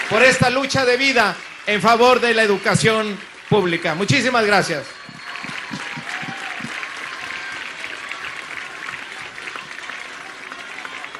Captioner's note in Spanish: aplausos